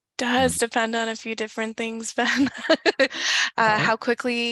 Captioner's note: chuckles